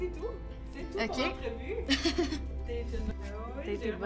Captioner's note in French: petit rire